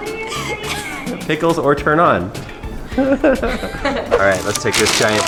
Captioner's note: laughter